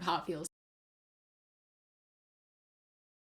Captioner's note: audio removed for copyright reasons